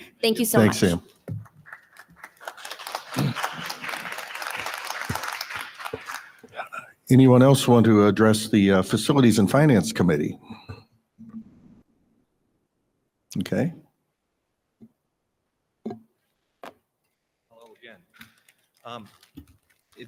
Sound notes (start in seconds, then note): 3.1 audience applauding